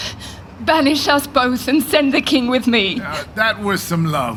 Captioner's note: crying